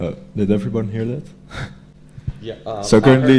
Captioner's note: laugh